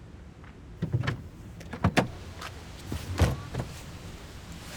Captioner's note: car door opening